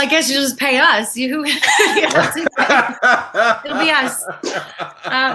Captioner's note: all laugh